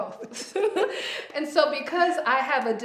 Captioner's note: both laugh